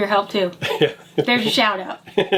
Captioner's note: laughs